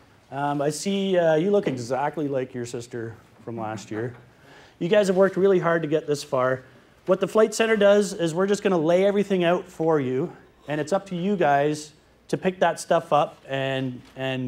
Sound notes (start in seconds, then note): none